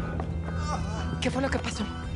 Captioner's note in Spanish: quejidos